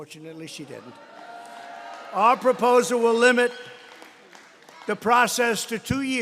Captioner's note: applause